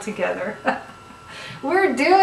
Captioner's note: chuckles